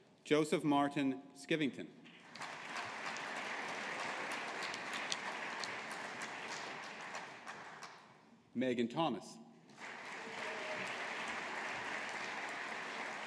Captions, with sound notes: Joseph Martin Skivington. (AUDIENCE APPLAUDING) Meghan Thomas. (AUDIENCE APPLAUDING)